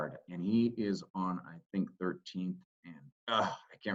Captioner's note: groans